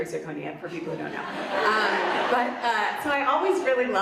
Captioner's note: audience laughs